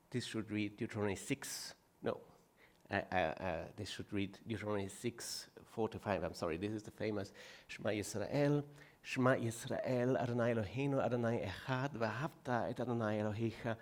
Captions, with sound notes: This should read 6- no. This should read, Deuteronomy 6:4-5, I'm sorry, this is the famous (speaking foreign language), "(speaking foreign language)."